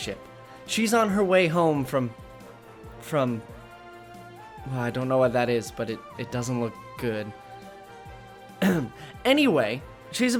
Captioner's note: clears throat